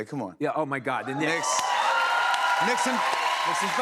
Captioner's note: cheers and applause